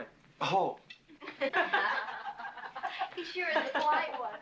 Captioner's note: women laughing